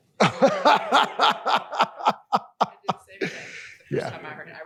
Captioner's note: laughter